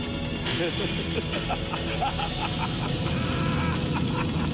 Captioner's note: man laughing